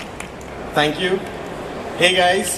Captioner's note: claps